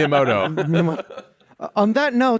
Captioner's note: laughs